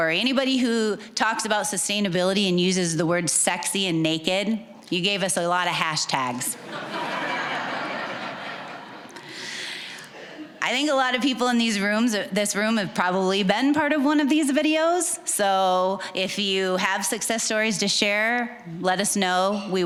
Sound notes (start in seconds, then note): 6.6 audience laughing